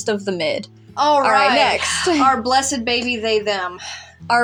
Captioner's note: sigh